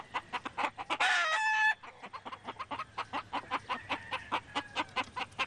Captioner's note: crowing